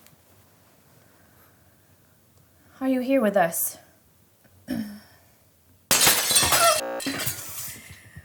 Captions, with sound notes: are you here with us [glass breaking]